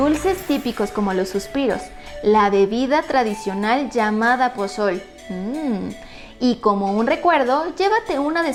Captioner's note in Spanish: mmm